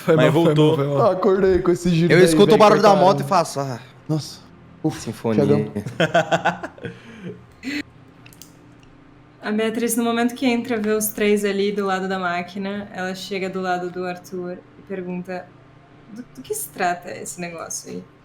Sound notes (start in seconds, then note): 4.3 sigh; 5.5 laughes